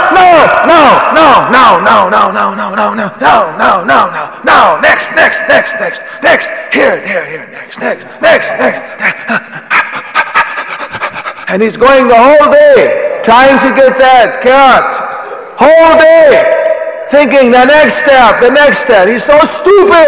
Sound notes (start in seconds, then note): 8.8 huffs and puffs